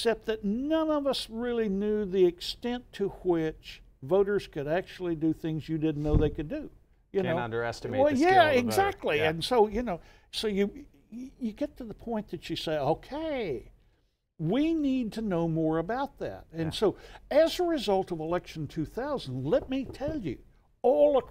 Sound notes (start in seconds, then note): 6.3 commissioner speaking